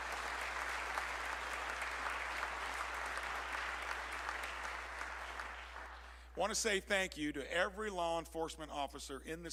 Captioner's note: applause